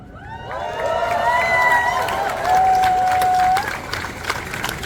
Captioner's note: applause